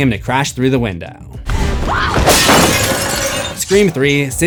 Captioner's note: screams